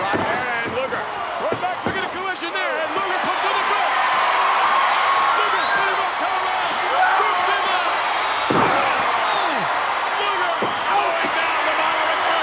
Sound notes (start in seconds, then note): 4.3 crowd cheering; 8.3 feet pounding